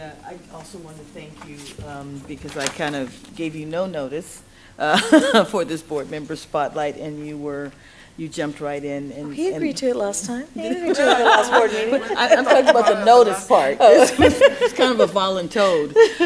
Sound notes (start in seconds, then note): 4.8 laughs; 10.6 laughter; 14.3 laughs; 15.6 laughter